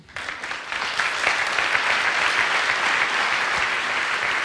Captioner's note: audience applauds